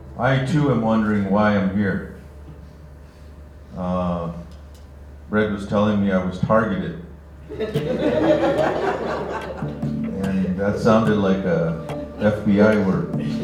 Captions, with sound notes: I too am wondering why I'm here. Brett was telling me I was targeted [Laughter] and that sounded like a FBI word.